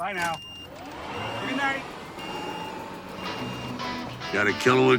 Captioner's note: vehicle beeping